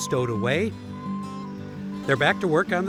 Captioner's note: machine beeping